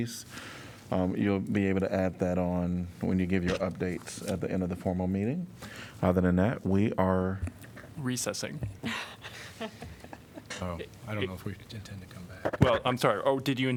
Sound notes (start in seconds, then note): 8.9 laughter